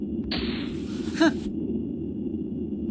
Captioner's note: impressed scoff